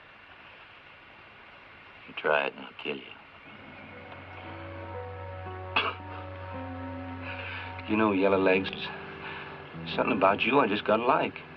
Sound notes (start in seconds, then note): 5.7 Billy laughs